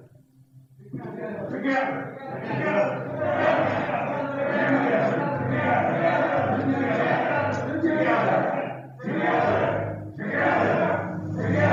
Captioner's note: all the men chanting